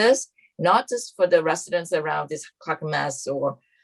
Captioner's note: speaks faintly